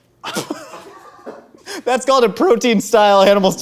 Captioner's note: laughs